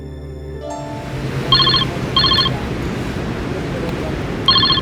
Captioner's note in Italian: squillo cellulare